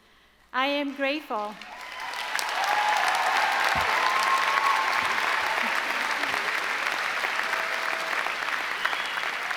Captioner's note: applause